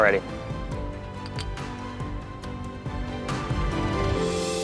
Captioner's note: bottles clink